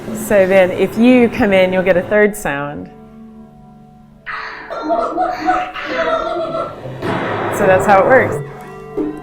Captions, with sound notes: So then if you come in, you'll get a third sound. (bot laughing) (banging) So that's how it works.